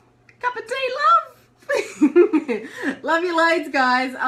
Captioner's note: laughs